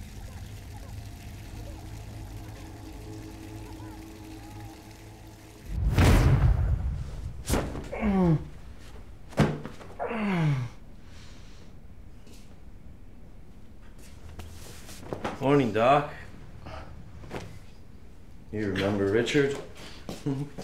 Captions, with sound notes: (baby crying distantly) (thunderclap) (groans) - Morning, Doc. You remember Richard?